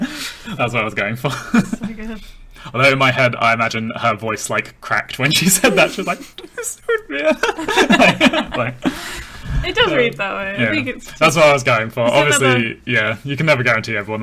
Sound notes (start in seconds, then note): 8.7 laughing